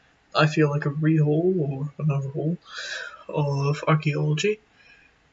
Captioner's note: inhale